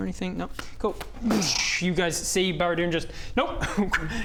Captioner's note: boosh